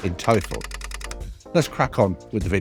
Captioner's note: typewriter clacking